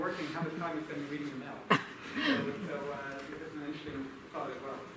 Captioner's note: laughter